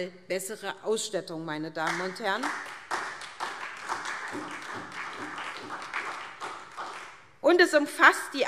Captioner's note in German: Beifall SPD